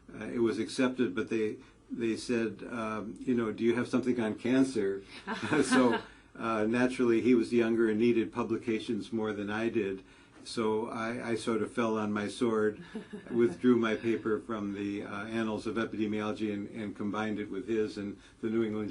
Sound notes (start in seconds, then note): 5.3 laugh; 12.8 laugh